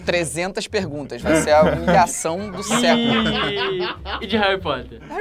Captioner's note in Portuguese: risadas